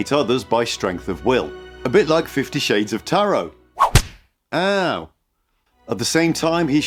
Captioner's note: whip sound